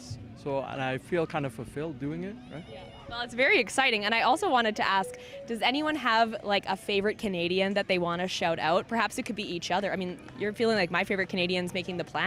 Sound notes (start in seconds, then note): none